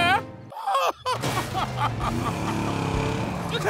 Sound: sobbing; sobbing

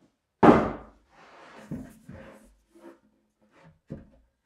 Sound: plywood thudding

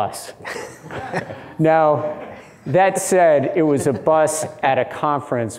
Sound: chuckles

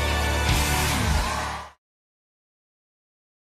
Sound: audience cheering

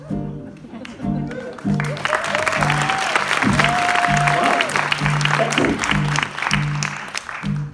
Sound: applause

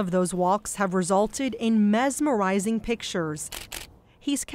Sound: camera clicks

